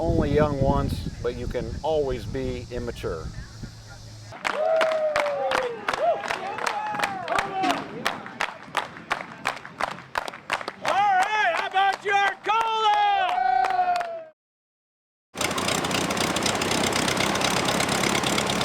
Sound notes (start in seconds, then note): 3.7 clapping; 10.6 airplane propeller spinning